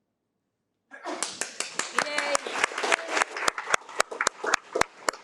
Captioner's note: attendees applaud